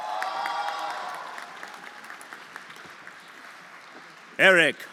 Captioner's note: everyone applauding